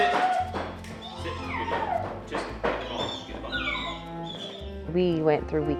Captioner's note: dog whining